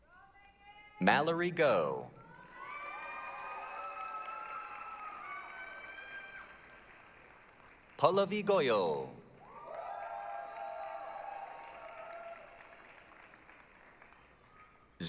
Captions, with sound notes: Mallory Go. [APPLAUSE, CHEERING] Pallavi Goel. [APPLAUSE, CHEERING]